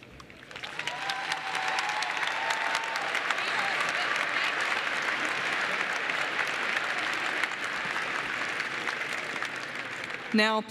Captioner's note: applause